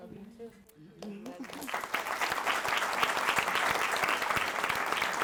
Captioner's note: audience claps